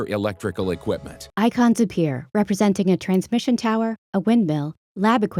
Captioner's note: voiceover